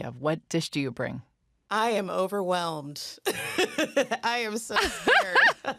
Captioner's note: laughs; laughter